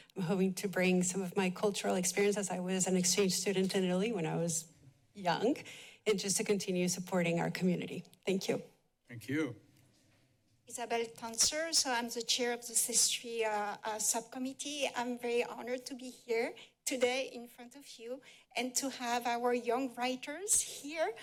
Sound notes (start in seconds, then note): none